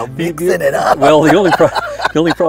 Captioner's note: laughs